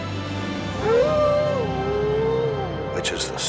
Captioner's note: vibrant music; Buck howling